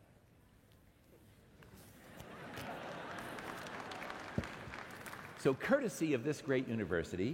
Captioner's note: laughter